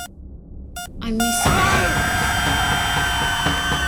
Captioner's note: Max screaming; heart monitor flat lining; intense music